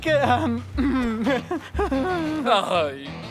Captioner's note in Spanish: Risa nerviosa